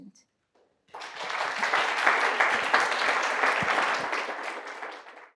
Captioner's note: applause